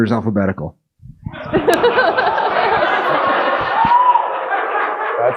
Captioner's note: audience laughing